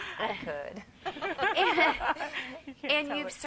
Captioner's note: laughter